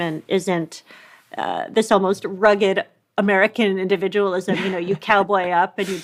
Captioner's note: laughs lightly